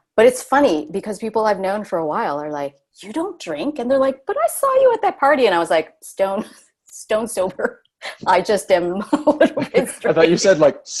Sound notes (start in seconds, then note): 9.0 laughs